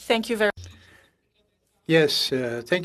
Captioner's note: speaking French